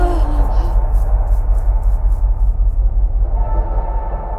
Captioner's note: intense music; woman gasping; footsteps pattering